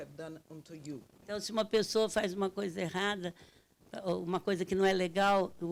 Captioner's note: speaking Portuguese